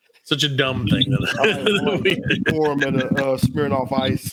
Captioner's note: laughing